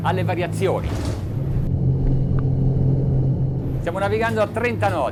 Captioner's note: boat revving; man speaks in foreign language